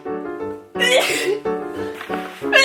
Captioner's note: sneezing